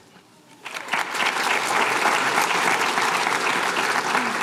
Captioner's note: applause